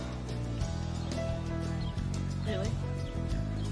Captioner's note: birds chirping